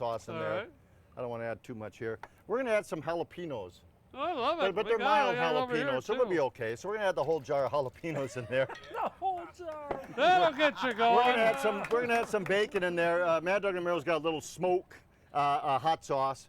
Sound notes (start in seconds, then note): 8.1 laughing; 10.8 all laughing